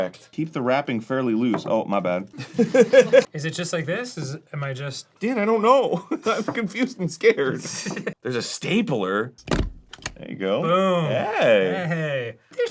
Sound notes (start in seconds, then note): 2.4 arin laughs; 9.0 stapler